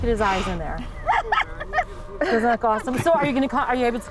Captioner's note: laughing